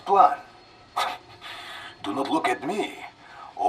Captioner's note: chuckles